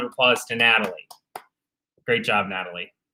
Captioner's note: panelists clapping